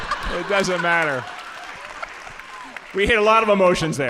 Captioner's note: all laughing; audience applauding